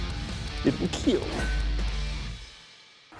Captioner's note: clank